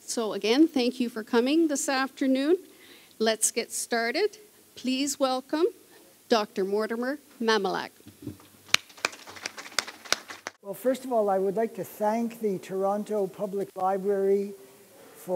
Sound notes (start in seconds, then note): 8.6 applause